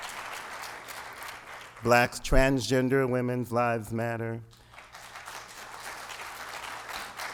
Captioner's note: applause